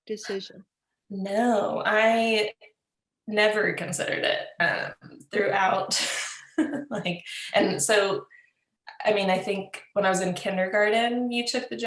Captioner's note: laughs